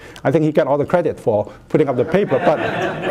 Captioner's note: laughter